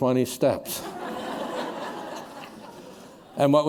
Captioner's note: laughter